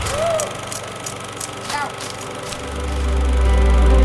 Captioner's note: film reel whirring